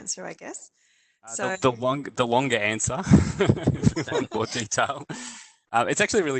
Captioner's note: laughter